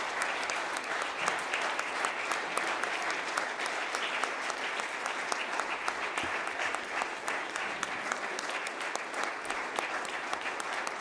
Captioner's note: applause